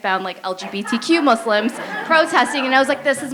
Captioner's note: laughter